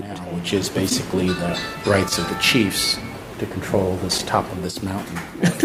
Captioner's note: laughs